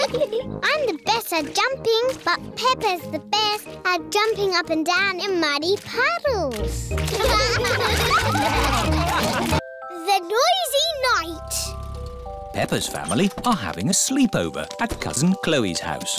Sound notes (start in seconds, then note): 7.1 all laugh